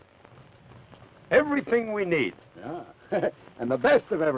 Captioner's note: chuckles